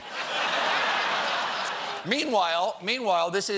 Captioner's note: laughter